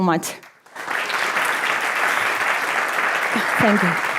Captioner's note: audience applauding